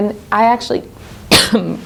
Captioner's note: coughing